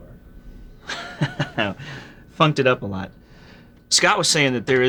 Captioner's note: laughs